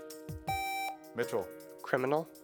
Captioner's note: buzzer beeps